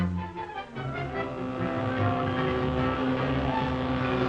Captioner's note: whirring